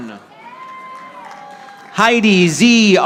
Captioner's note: audience applauding